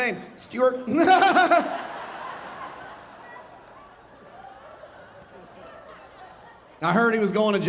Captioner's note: laughing; audience laughing